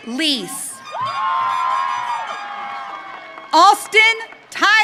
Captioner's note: audience cheering